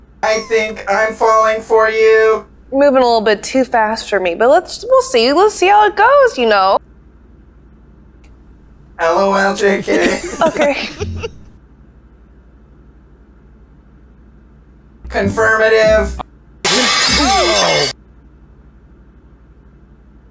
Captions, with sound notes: I think I'm falling for you Moving a little bit too fast for me But let's- We'll see We'll see how it goes, you know? Lol jk Okay Confirmative *plates crashing on floor*